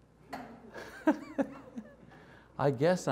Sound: laughs

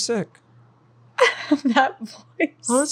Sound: laughing

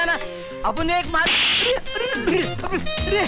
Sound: slap

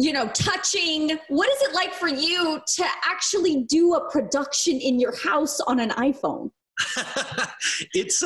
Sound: Thomas Sadoski Laughs

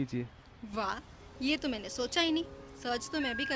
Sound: sarcastically

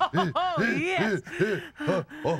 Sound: panting

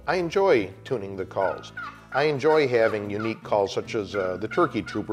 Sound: turkey call

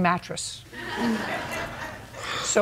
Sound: laughter

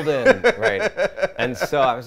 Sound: laughs

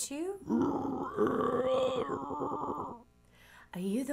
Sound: bear growling

